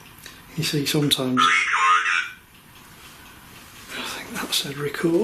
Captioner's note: Voice on Ovilus